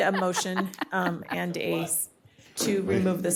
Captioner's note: laughter